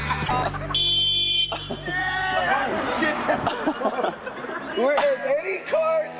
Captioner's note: skate noises; car noises; laugh